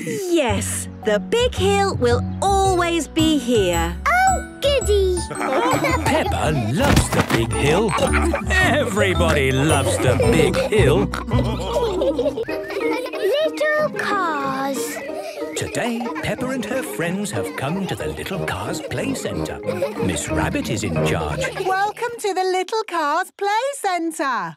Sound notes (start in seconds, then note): 5.0 laughing; 11.1 all laughing